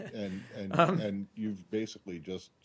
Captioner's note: laughter